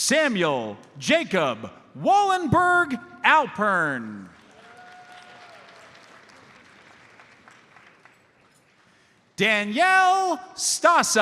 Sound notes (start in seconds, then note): 4.4 audience applauds